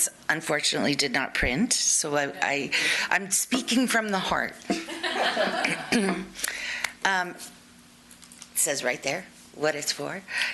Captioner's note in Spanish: Risas